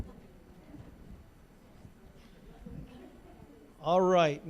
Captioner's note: general chatter